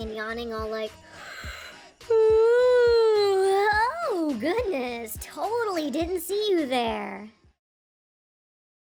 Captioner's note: yaaaawwwwnnn